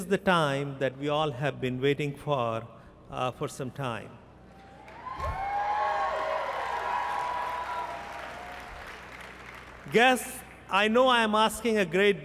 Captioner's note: applause